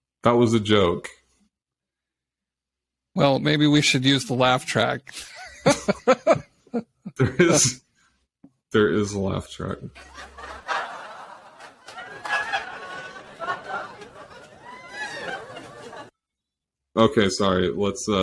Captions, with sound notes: That was a joke. Well, maybe we should use the laugh track. (laughs) There is a laugh track. (audience laughing hysterically) Okay, sorry, let's...